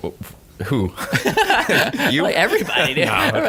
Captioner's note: laughter